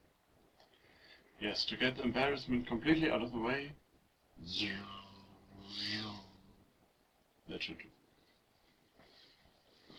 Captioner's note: lightsaber noises